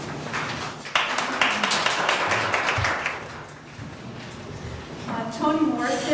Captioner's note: applause